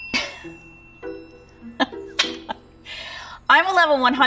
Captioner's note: bell dings; chuckles